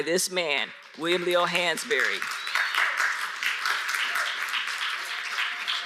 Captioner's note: audience applauds